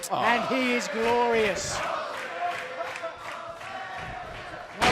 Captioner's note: fans chanting